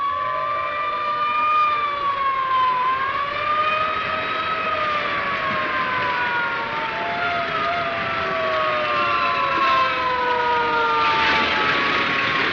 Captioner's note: sirens wailing